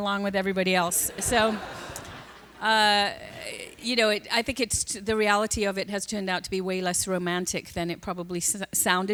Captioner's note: laughter